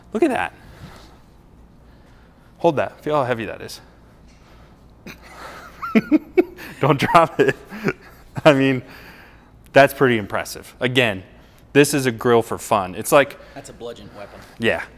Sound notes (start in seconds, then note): 5.0 both laughing